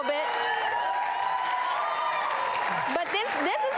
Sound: audience claps

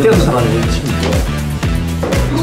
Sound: arguing

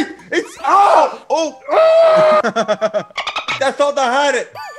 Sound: laugh

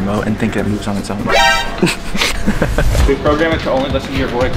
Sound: chuckles

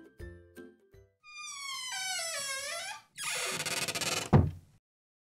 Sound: door creaks and closes

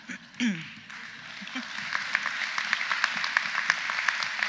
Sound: audience laughs; audience applauds

